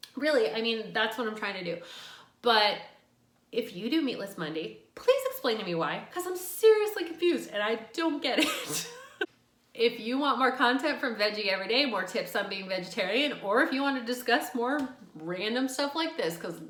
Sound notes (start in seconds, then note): 8.4 laughs